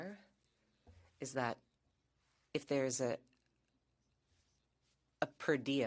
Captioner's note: speaking French